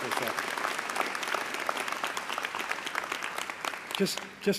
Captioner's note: applause